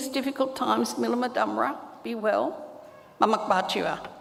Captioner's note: speaks native language